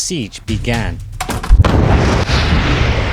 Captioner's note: door closes